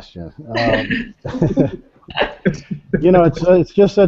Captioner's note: group laughing